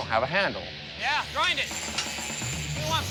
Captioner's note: blade whirs